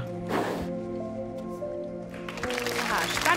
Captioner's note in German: Applaus